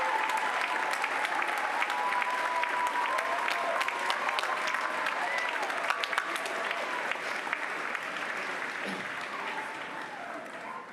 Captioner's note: applause